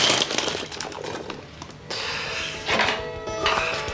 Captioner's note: sighs